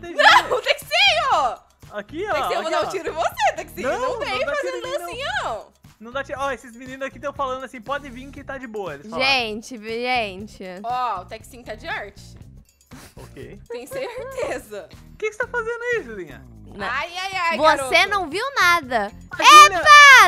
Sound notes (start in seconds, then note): 13.0 laughing; 13.0 laughs; 19.4 screaming